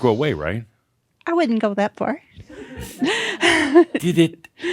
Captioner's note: she chuckles